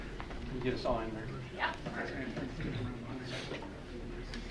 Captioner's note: mild chattering